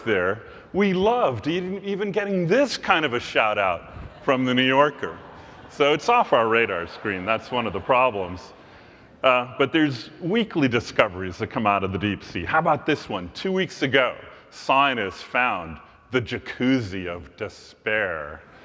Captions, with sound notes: work there, we loved even getting this kind of a shout-out from the New Yorker. >> [LAUGH] >> So it's off our radar screen, that's one of the problems. But there's weekly discoveries that come out of the deep sea. How about this one? Two weeks ago scientists found the Jacuzzi of Despair.